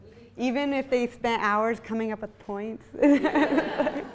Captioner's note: laughs; audience laughs